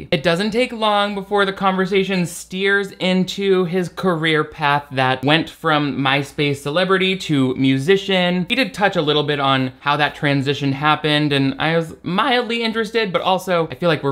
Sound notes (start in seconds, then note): none